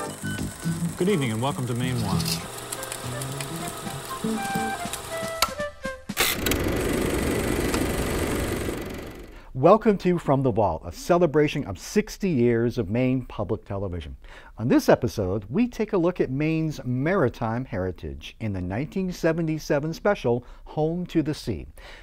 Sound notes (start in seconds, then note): 3.4 upbeat music; 4.8 projector clicking